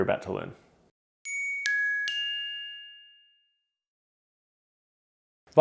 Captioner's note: high-pitched dinging